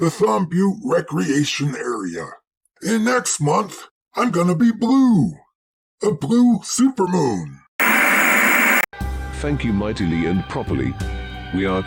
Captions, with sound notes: the Thumb Butte Recreation Area. And next month, I'm gonna be blue! A blue SuperMoon! [Static] Thank you mightily and properly. We are